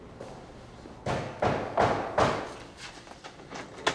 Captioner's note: pounding